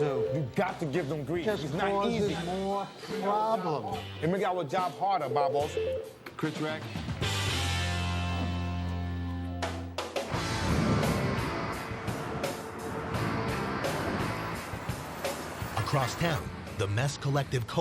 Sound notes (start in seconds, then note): 5.2 telephone rings